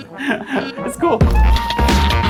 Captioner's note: laughs